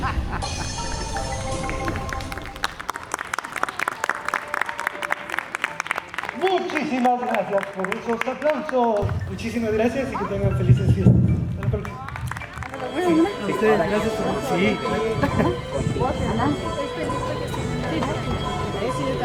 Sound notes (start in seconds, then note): 1.5 applause; 12.6 people talking